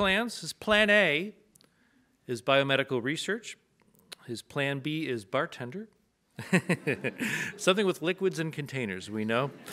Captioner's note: audience laughs